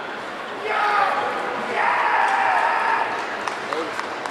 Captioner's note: audience cheering